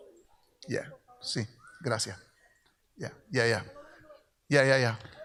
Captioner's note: speaks in Spanish